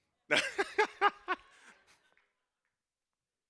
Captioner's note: laughs